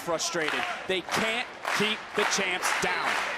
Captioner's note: crowd clapping